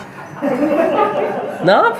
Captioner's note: laughs